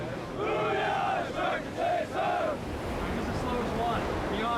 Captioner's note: trainees shouting